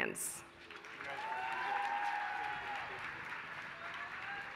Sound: applause

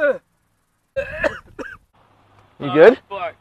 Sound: coughs

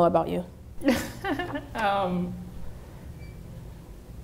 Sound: laughing

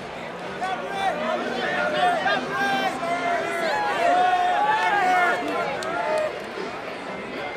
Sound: People shouting Gnabry

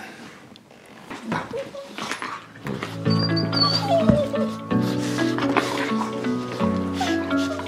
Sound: banging noise; dogs whining; upbeat music

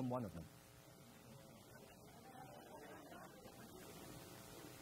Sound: crowd laughs

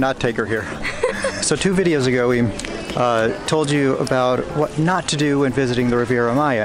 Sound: laughter

